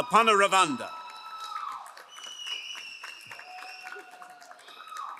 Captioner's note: crowd cheering and applauding